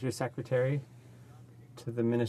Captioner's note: speaking French